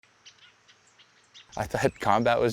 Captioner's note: birds chirping